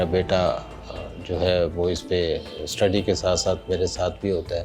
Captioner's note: speaking foreign language